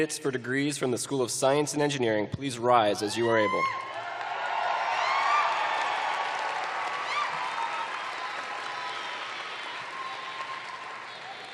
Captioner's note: cheering